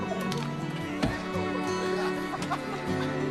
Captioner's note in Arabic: ضحك